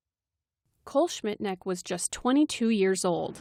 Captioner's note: voice-over